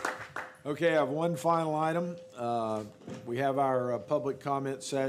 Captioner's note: applause